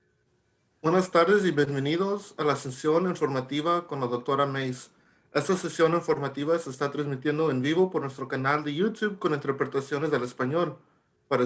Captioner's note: talking in Spanish